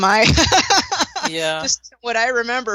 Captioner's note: laughter